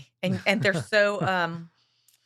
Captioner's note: laughing